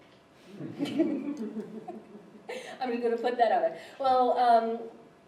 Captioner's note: laughter